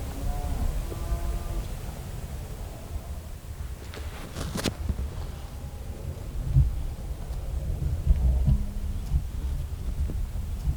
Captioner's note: natural noises/cows mooing